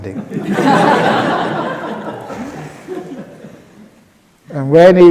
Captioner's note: laughter